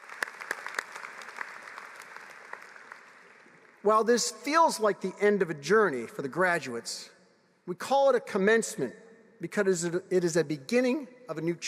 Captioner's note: applause